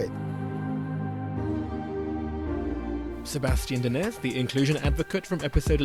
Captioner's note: voiceover